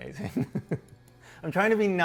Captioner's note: laughs